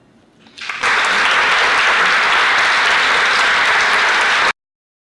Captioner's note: applause